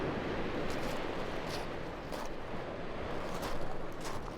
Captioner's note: waves crashing